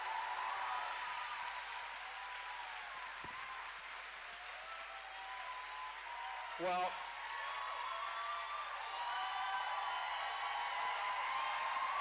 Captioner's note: cheering